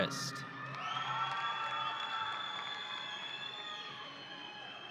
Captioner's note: audience cheering